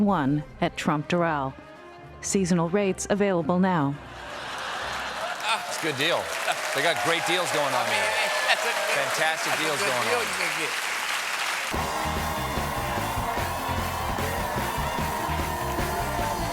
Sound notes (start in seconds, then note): 2.6 applause; 2.6 laughter